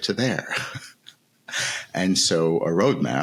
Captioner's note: laughing